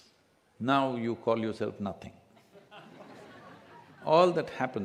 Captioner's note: few laugh